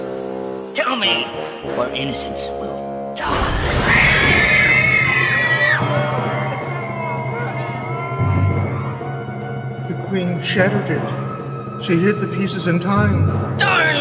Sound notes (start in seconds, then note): 3.2 people in cage scream; 6.0 people in cage moaning